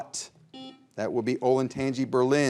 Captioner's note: buzzer beeps